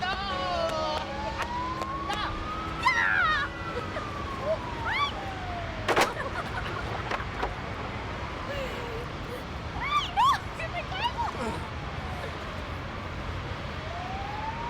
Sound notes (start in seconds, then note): 6.0 laughing